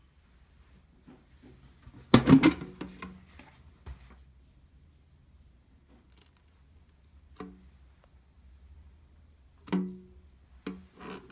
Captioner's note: folding